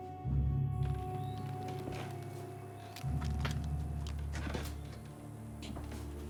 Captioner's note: insects chirping; birds trilling